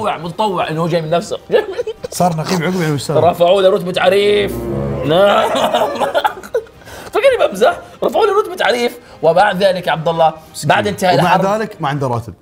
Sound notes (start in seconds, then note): 4.1 laughing